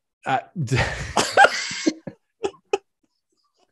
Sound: both laughs

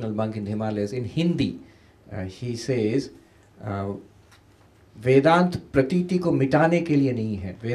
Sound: speaking hindi

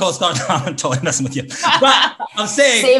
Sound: others laugh

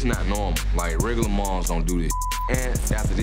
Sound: beep

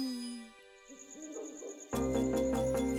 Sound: owl hooting

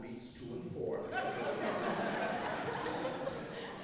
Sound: laughing

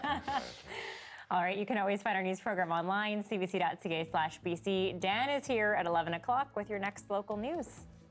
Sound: laughter

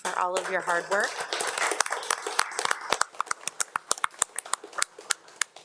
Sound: audience applauding

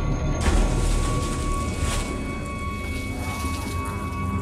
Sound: water splashing

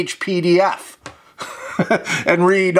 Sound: chuckling

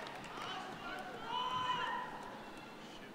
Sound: cheers and applause

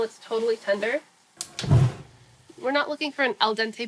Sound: whoosh

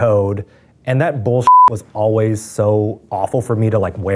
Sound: beeps

